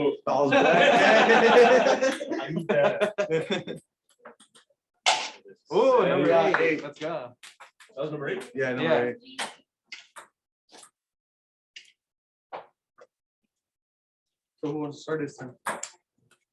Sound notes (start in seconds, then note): 0.4 laughter